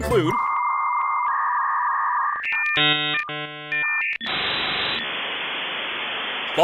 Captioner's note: dial-up tone blares